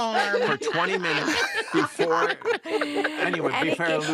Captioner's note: all laugh